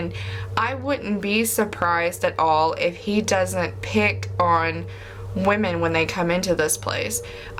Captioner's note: none